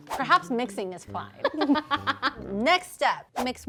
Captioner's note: woman laughing